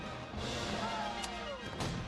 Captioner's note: shouts